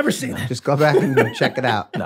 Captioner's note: Glenn laughs